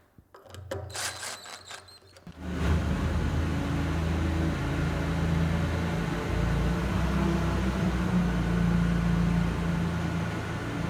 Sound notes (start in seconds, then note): 2.4 forklift roaring